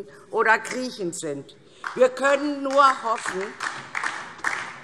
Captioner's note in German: Beifall